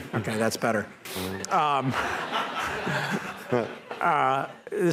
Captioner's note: laughter